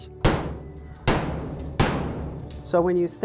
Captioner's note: gun shots fired